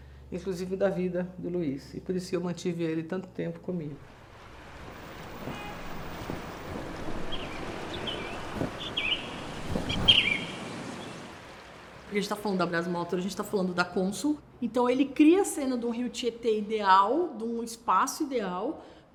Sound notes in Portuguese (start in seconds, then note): 5.0 som de cidade: trânsito; 7.3 som do pássaro: bater das asas e canto